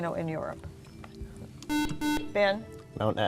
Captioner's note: beeping